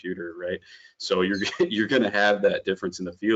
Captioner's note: chuckles